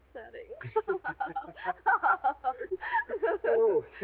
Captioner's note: both laughing